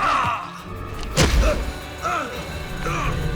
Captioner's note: groaning